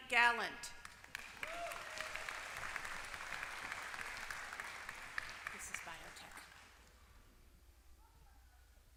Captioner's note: applause